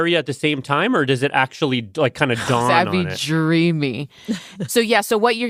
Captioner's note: laughs